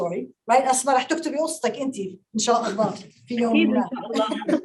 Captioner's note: speaking Arabic